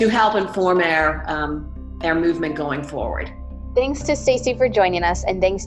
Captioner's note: voiceover